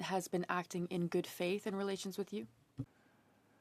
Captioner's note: speaking French